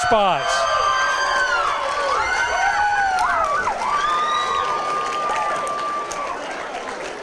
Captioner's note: applause, cheering, screaming